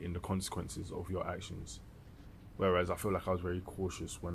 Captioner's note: none